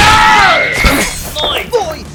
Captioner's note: grunt